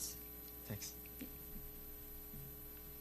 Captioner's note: voiceover